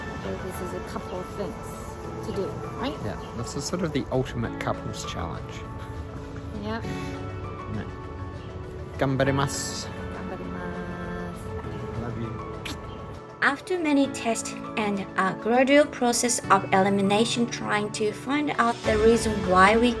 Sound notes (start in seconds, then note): 12.6 smooch!